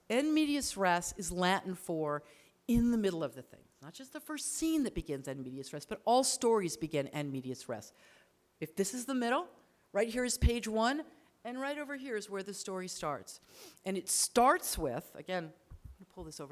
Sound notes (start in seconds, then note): 0.0 speaks foreign language; 5.3 speaks foreign language; 7.4 speaks foreign language